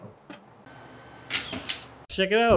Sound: nail gun whirring

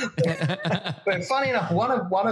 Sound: laugh

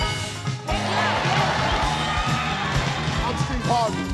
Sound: cheering

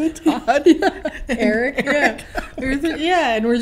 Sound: laughing

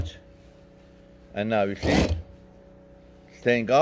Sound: machine whirs

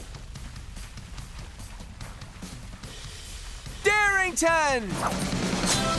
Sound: none

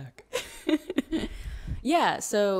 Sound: laughs

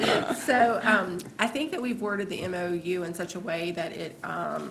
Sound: laughter

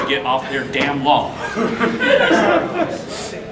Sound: audience laughing

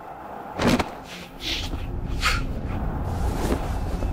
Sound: whooshing noise

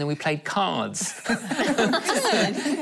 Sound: laughing

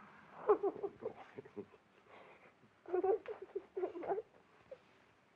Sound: Betty crying and mumbling

